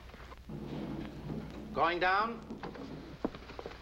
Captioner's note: voiceover